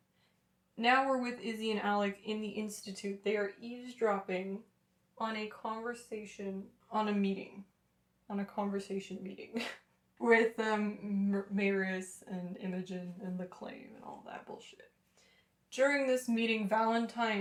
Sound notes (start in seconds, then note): 9.6 laughter